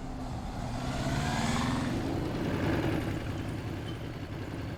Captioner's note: motorbike rumbling